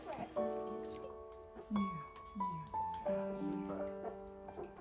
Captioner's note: parents speaking softly